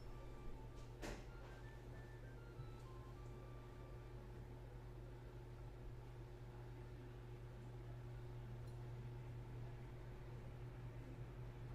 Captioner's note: nuthin' but some occasional clicks and taps